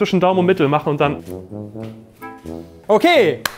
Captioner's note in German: Tapsende Klänge